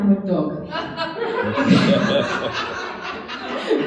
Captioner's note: laughing